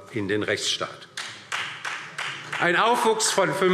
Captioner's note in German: Beifall DIE LINKE und SPD